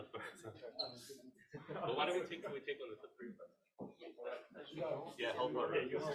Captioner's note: colleagues conversing